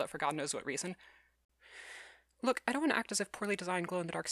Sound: inhales

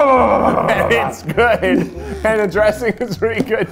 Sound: laughing

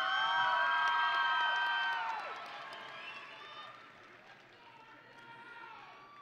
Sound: audience and graduates cheering

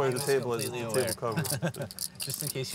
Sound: laughter

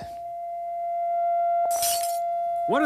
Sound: high pitched humming

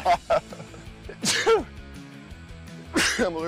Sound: sneezing

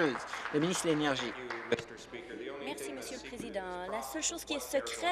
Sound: applause

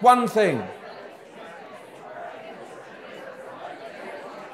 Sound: crowd chattering

